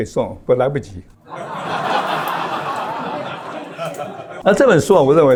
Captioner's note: laughs